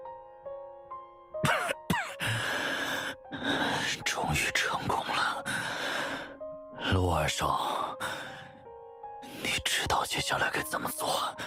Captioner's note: cough